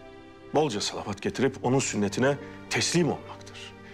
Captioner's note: none